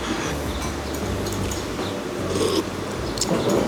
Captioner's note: slurp